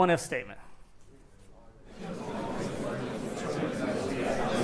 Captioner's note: chatter